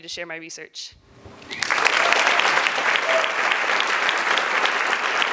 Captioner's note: applause